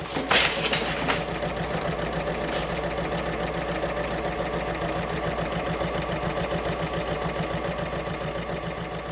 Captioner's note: sewing Machine Sounds